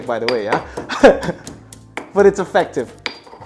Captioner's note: laughs